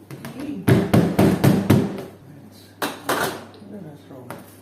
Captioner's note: knocking